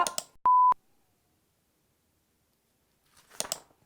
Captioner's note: beep; click